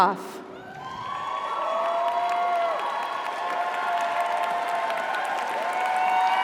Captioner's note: audience cheers; audience applauds